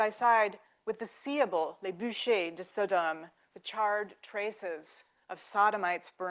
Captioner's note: speaking French